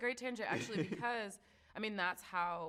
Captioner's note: chuckles